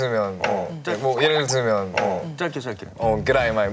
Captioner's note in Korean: 꿀꺽